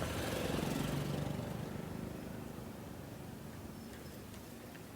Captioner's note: motorbike engine revving